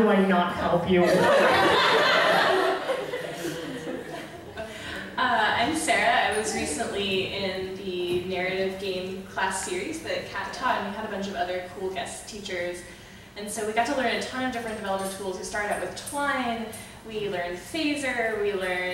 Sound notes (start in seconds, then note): 2.8 audience laughing; 5.4 voiceover